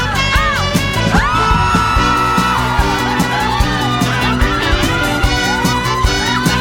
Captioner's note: screams